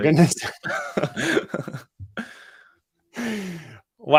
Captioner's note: laughter